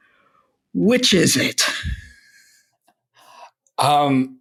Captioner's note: laughs